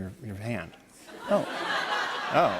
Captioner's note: laughter